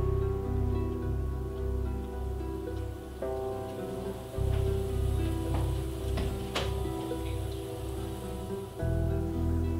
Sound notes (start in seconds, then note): 4.8 water running